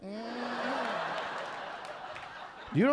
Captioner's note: audience laughing